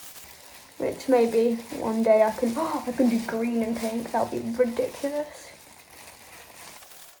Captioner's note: gasp